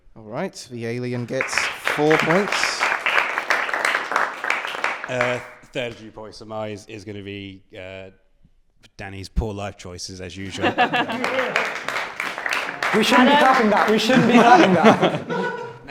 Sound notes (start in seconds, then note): 4.5 applause; 10.4 laughter and applause; 15.1 laughter